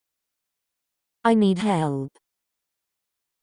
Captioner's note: Weave Chat voice